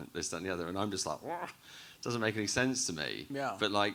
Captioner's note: groans